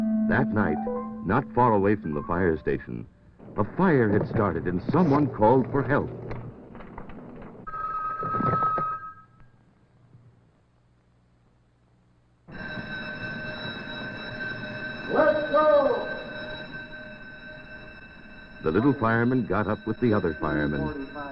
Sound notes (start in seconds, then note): 7.6 phone ringing; 12.5 fire bell ringing